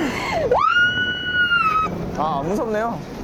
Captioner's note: starting with a dolphin-like scream